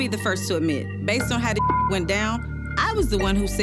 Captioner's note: beep